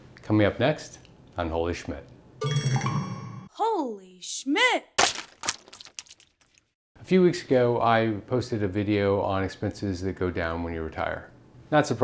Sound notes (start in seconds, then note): 5.0 water splat